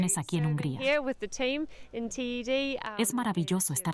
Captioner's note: Hablando idioma extranjero